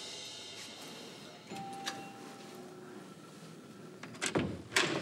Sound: doorbell rings

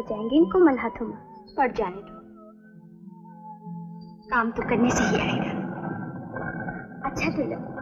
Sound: grinding

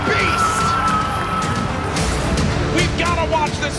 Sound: family and crowd cheering

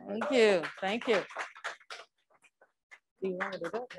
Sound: crowd applauds

